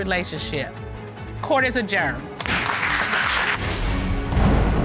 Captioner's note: audience applauding